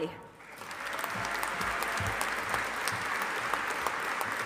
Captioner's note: audience applauding